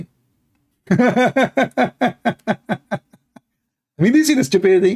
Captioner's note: Ketawa